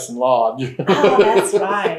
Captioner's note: laughs